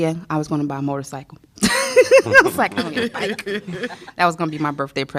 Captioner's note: laughter